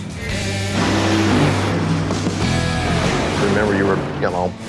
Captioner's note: racing engines